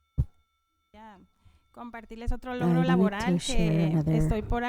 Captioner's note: panelist speaking in Spanish